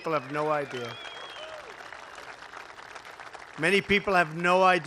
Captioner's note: applause